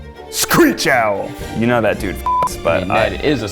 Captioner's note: beep